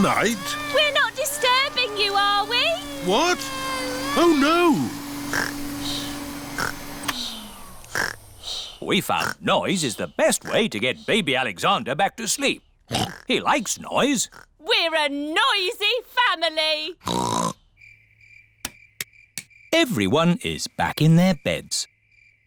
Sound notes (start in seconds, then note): 5.2 snores; 6.8 whirring stops; 12.9 oinks